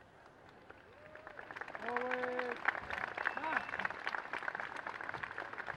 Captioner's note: applause